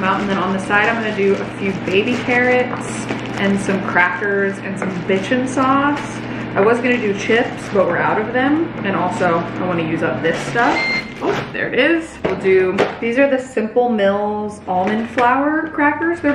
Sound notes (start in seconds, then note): 9.8 air fryer beeps